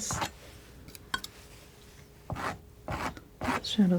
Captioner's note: scratching